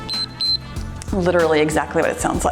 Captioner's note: timer beeps